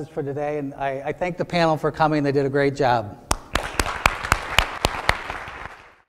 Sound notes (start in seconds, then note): 5.1 applause